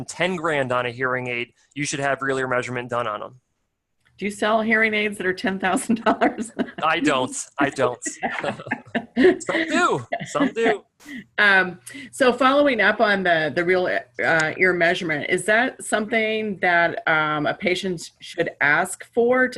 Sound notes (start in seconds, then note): 5.6 laughter